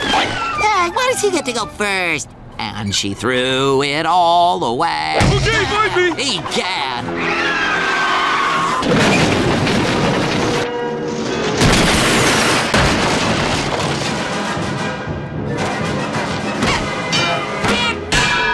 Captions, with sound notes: Hey, why does he get to go first? "And she threw it all away..." - Okay find me! - Egad! [screeching] [crashing] [thudding] [dinging, squeaking, etc]